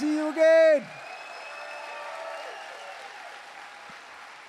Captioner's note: applause